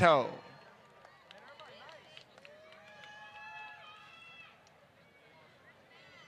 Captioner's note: applause